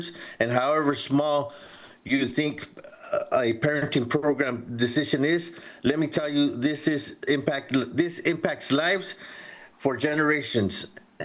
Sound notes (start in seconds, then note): none